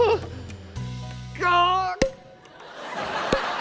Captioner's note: whimpers; pop!; laughter